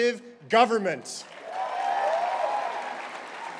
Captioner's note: cheering